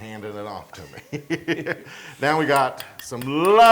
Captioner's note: laugh